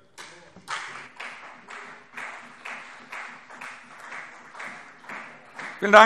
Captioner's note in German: Beifall CDU